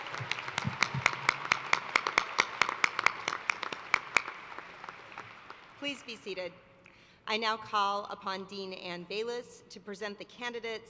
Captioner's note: cheers and applause